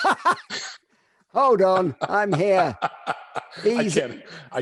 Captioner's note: laughs; laughing